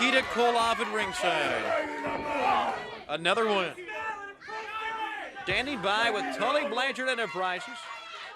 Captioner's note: crowd chatter